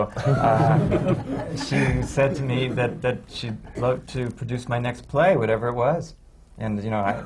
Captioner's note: laughter